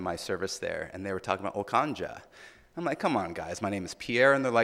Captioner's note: speaking in foreign language